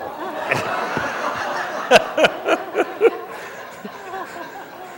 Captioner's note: laughter